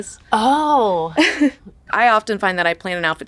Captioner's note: Katie and Judith chuckle